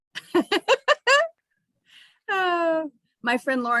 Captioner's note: chuckles